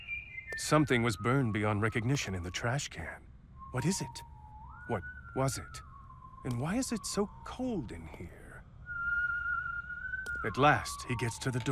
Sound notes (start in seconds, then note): 8.8 whistling